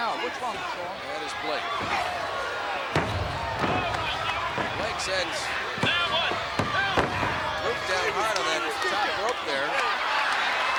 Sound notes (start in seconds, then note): 2.9 body thudding; 2.9 hands thudding; 7.4 body thudding